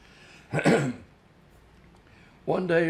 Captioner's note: clears throat